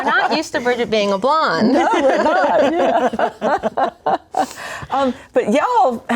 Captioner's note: laughing